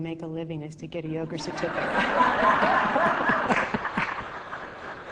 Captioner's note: laughing